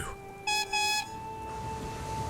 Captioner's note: neil whistles